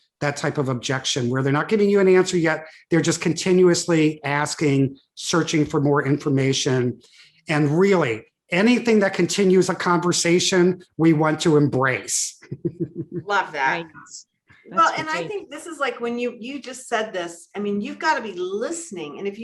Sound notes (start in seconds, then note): 12.4 chuckles